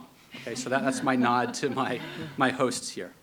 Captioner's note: people laughing